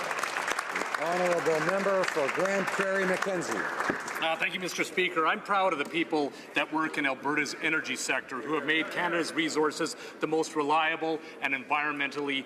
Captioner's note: speaking alternate language